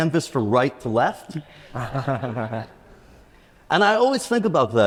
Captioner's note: attendees laughs